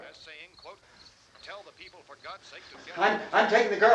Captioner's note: radio continues announcing